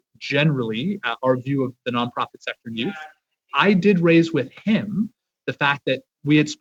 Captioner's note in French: voix de l'interprète